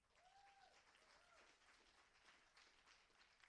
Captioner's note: applauding